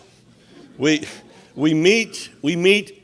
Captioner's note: audience laughs